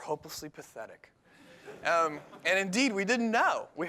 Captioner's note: laughter